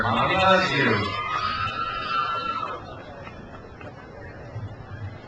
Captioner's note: crowd cheers